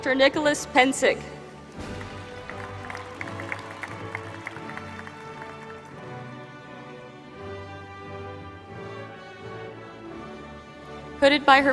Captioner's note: applause